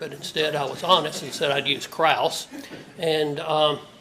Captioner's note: laugh